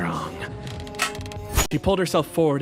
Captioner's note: clank